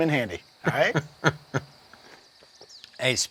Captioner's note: laughing